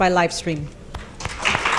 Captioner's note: applause